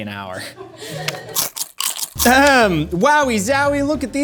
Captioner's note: crunching